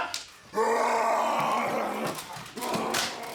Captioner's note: snarling